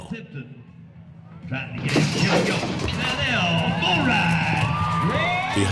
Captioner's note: door crashes open